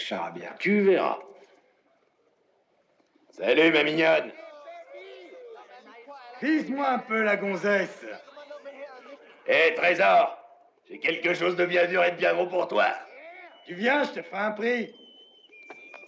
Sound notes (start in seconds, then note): 4.2 whistling; 6.7 men yelling